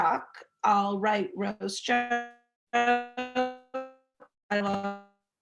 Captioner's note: audio stuttering